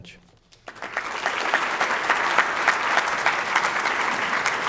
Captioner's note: audience clapping